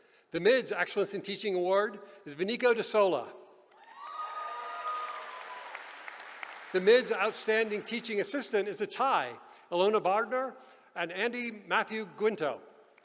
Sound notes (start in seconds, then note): 3.7 applause